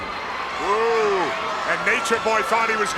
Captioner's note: crowd cheering